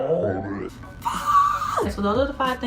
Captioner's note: screams